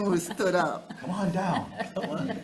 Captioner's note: attendee chuckling; attendees chuckling